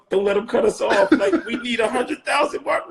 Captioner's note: laughing